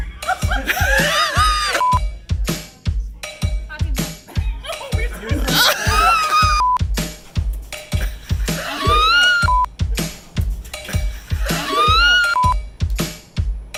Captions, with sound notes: [LAUGHTER] - Happy Birthday. - No, it's supposed to-- [LAUGHTER]